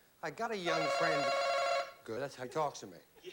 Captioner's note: bell chimes